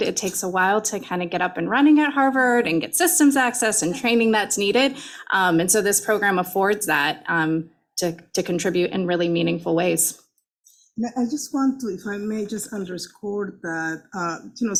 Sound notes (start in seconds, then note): none